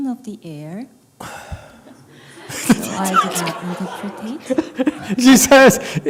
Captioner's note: laughs